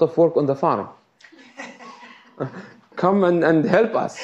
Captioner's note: laughs